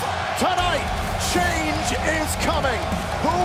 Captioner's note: crowd cheering